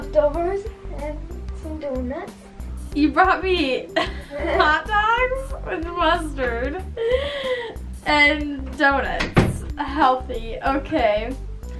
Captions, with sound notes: - Leftovers and some doughnuts. - You brought me (laughs) hotdogs and mustard and doughnuts. (door closes) Healthy okay.